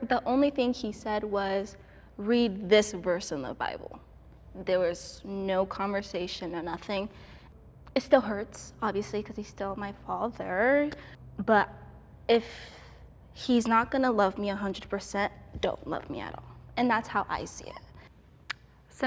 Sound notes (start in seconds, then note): none